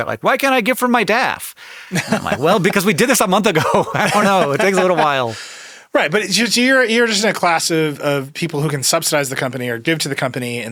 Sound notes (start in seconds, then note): 3.5 laughs